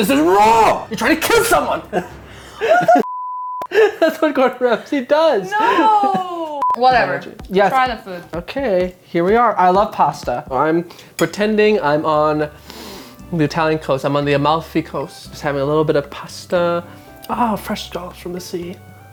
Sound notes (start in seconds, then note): 3.0 beep